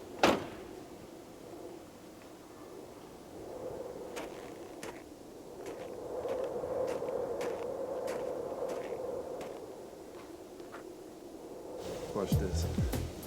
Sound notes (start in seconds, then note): 0.2 door thuds; 4.1 footsteps crunching; 4.2 wind howling